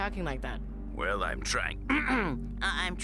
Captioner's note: speaking as Announcer; clears throat